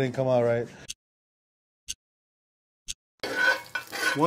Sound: timer ticking

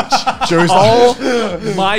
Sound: laughing

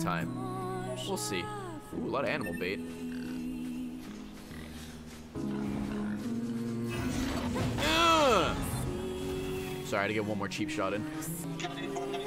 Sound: laughs

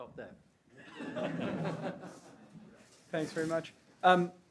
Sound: all laughing

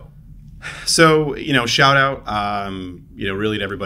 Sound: sighs

